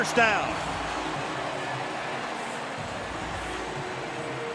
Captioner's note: cheering